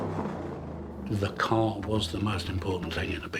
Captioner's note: car engine revving